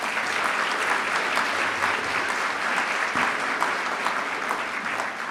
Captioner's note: applause